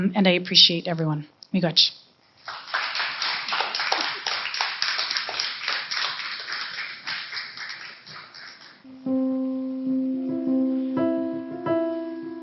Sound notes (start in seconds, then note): 2.4 applause; 8.8 piano Playing